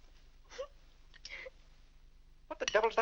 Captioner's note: Annie weeps